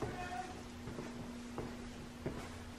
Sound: unknown shouting

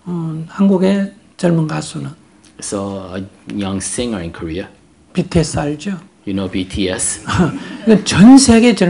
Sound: audience Laughter

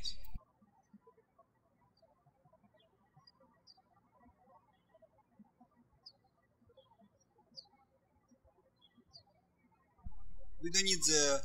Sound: birds chirping

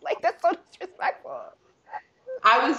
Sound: laughing

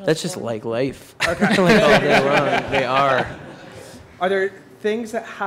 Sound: laughter

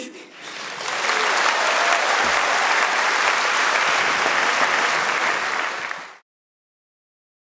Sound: audience clapping

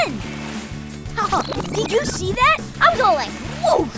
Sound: laughing

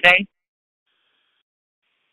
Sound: silence

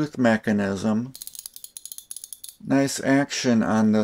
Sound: ratchet sounds

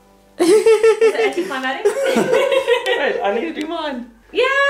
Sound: laughing

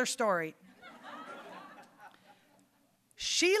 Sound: audience laughing

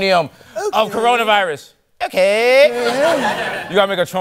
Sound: trump voice

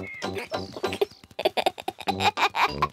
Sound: giggles

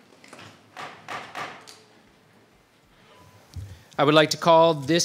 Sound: gavel thumping

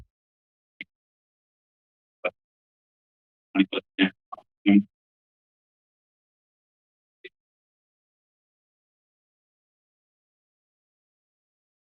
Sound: silence

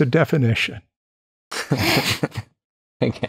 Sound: laughter

